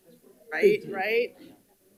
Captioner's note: board Members talking and laughing off microphone